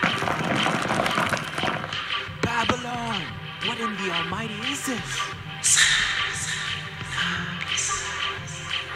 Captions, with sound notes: (rocks crashing) Babylon. What in the almighty is this? (whispering)